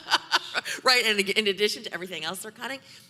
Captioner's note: laughing